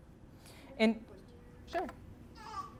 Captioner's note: woman speaking faintly